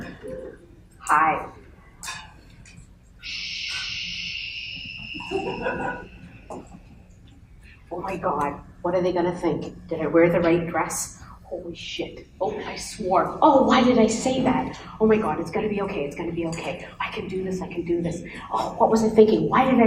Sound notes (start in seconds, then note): 2.7 shushing sound